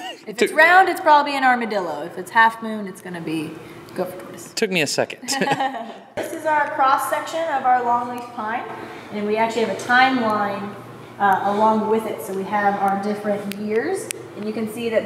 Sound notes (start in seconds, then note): 0.0 laughs; 5.2 laughs